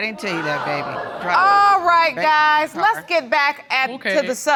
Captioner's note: audience exclaiming